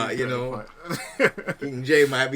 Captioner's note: laughs